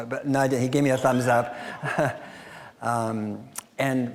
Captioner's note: laughing